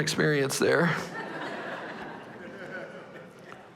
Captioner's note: laughter